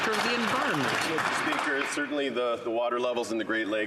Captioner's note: some Applause